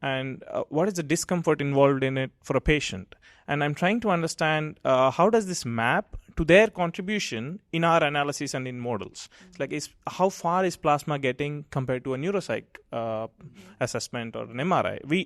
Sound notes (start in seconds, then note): none